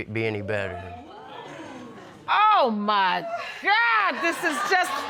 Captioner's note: audience exclaiming